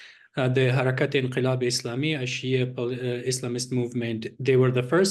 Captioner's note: non english speech